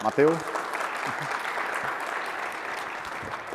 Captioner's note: applause